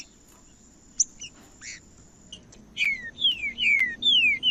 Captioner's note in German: trinca ferro cantando